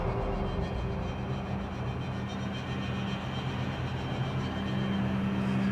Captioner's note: wind blowing